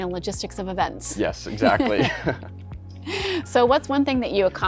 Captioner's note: they laugh